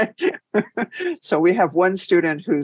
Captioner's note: laughs